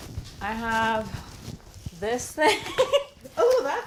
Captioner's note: laughing